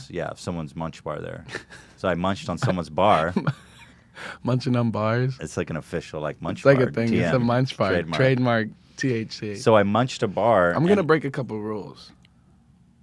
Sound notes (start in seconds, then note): 1.5 snickers; 3.0 laughs